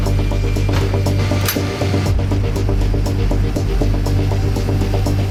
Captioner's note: locking lever clicking